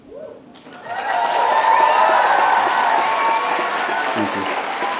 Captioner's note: applause